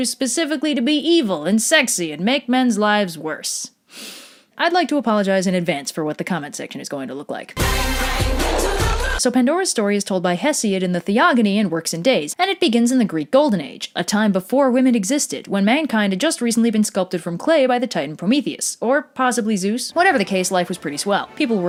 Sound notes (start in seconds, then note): 3.8 inhales deeply